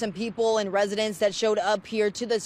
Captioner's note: speaking spanish